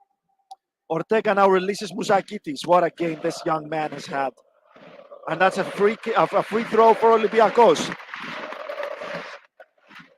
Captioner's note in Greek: Χειροκρότημα